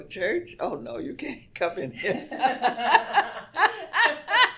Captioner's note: laughs